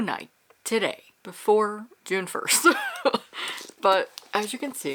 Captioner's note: laughs